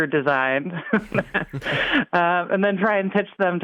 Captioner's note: laughing